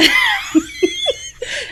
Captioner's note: laughs